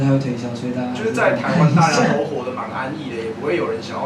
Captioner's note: laughs